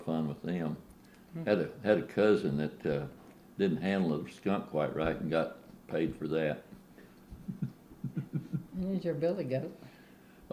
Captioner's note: laughs